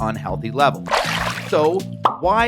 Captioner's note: water splashes